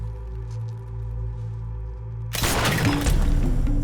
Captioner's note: gunshots